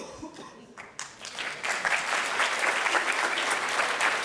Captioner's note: applause